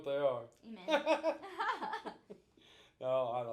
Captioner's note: both laughing